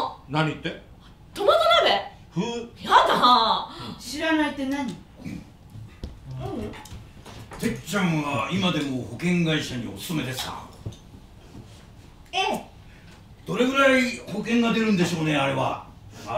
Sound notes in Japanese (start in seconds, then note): 3.7 ふう